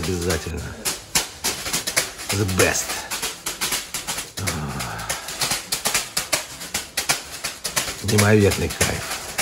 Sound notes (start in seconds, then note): 1.0 sound of broom blows; 2.9 sounds of banging with a bath broom; 9.1 sound of banging broom